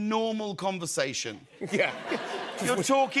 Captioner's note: laughter